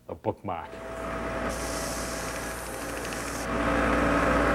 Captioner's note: sanding